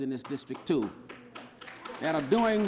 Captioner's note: audience clapping